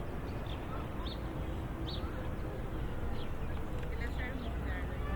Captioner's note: birds chirp